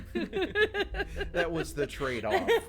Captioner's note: all laughing